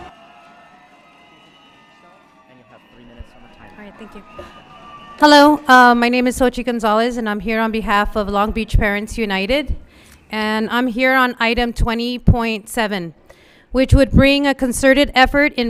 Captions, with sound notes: (whistles blow) - And you have three minutes on the timer. - All right, thank you. Hello, my name is Sochi Gonzalez and I'm here on behalf of Long Beach Parents United. I'm here on item 20.7, which would bring a concerted effort